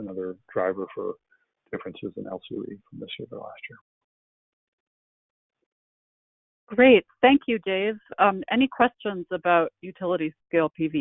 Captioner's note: laughs